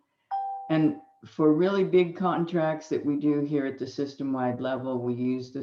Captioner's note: computer dings